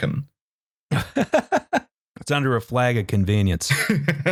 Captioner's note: laughs; laughs